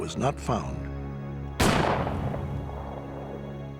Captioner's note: gunshot